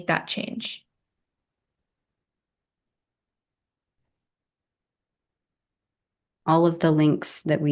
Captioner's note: silence